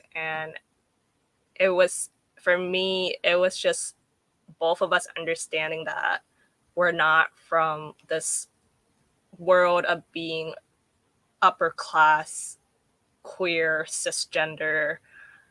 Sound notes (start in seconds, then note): none